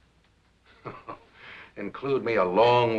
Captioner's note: chuckles